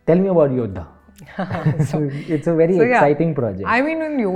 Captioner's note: laughs